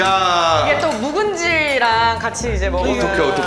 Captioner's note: haha